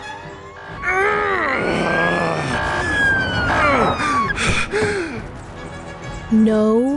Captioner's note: heavy grunting, then panting